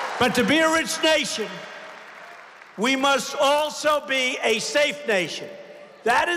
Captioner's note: applause